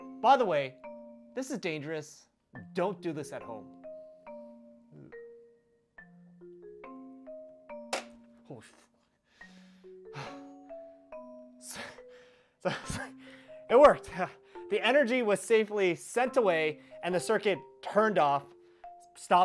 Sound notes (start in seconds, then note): 7.8 GFCI Clicks; 9.2 gasp